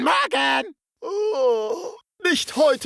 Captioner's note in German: Stöhnt